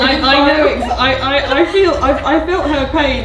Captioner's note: laughs